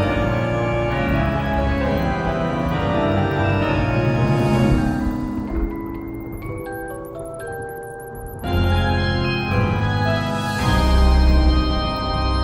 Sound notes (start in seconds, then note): 4.7 thunder rumbling